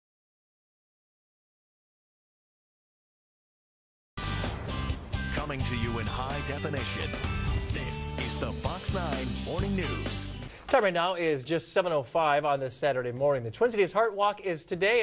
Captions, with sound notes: - [Voiceover] Coming to you in high definition, this is the Fox 9 Morning News. - Time right now is just 7:05 on this Saturday morning. The Twin Cities Heart Walk is today,